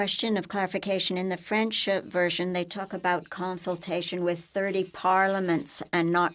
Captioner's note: speaking french